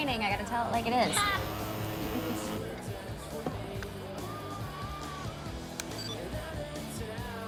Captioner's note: phone vibrates; Izzie laughs